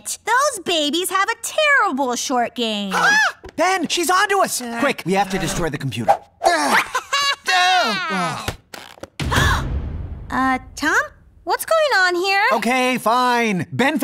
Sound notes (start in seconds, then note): 9.1 gasps